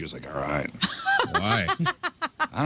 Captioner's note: laughing